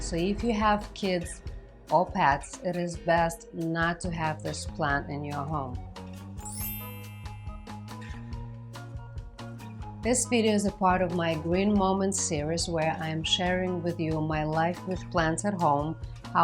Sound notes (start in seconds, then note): 5.0 whimsical music; 6.4 twinkling